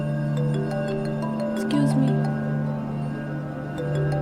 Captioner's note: phone ringing